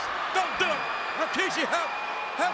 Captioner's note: spectators cheering